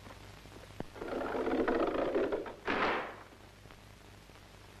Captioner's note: door clicking